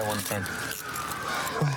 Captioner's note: sirens grow louder